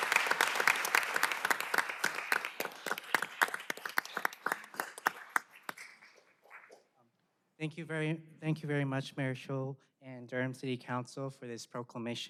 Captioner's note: applause